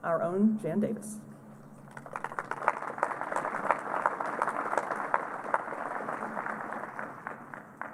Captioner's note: applause